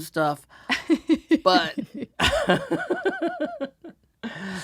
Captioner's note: laughs